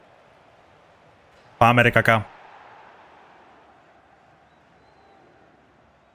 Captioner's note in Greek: χειροκρότημα; χειροκρότημα